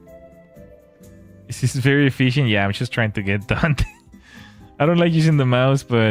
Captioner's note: laughter